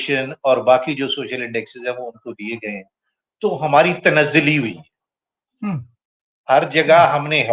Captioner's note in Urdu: گلا صاف کرتا ہے